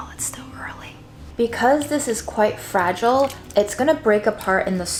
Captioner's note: water sloshing